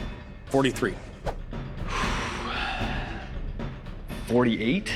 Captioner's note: sighs